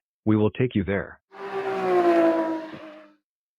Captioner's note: car vroom